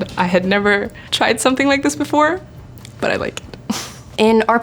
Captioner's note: laughing